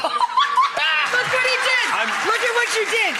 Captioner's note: Rachael laughs